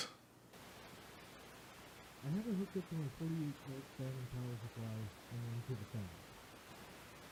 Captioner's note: static and highly muted